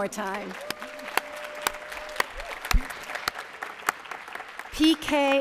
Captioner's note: cheers and applause